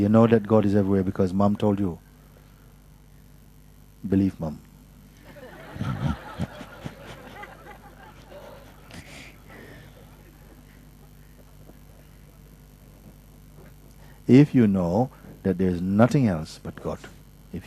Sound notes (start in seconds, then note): 9.6 laughter